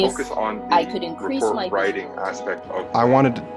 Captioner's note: several students talking